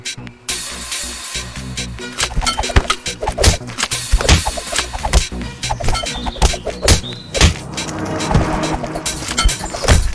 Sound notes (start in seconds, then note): 2.1 nunchucks swishing